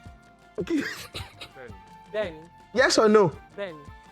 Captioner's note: laughs